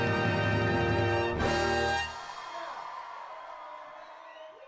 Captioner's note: audience cheering